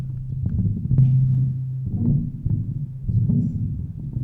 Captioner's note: low hum